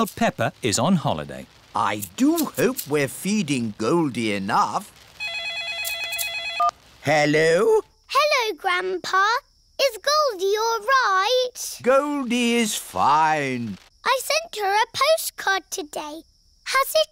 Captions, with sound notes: while Peppa is on holiday. I do hope we're feeding Goldie enough. -(PHONE RINGS) -Hello. Hello, Grandpa. Is Goldie all right? Goldie is fine. I sent her a postcard today.